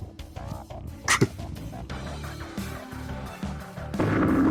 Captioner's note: cough